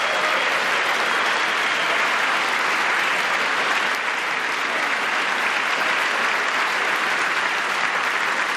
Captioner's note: applause; applause